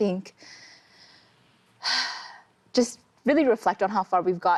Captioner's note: exhales